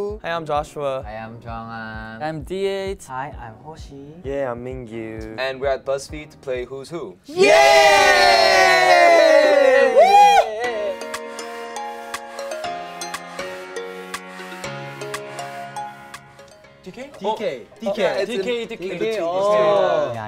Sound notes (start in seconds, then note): 7.3 cheering; 10.8 upbeat music